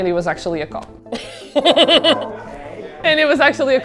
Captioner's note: laughs